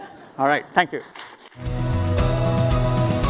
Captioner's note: applause